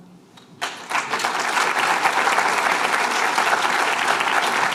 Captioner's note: applause